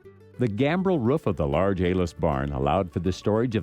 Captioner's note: voiceover